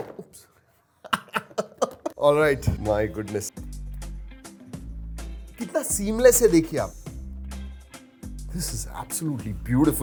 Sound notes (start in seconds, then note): 1.0 laughs